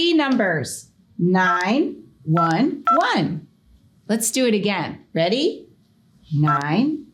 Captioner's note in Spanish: pitido del teléfono